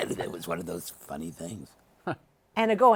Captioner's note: chuckles